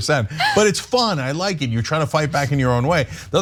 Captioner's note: laugh